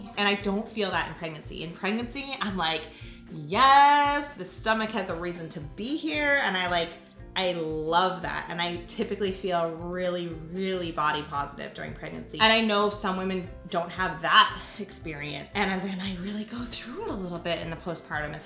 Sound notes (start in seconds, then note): none